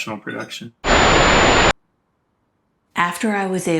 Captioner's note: screen sizzles